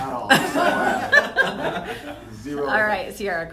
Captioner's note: laughter